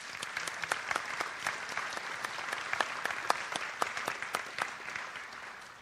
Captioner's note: audience applauds